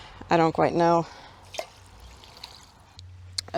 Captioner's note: water sloshes out